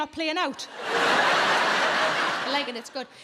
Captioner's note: audience laughs